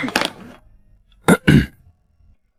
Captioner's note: cough